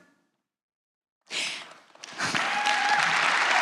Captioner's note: applause